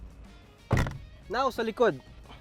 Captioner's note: door closes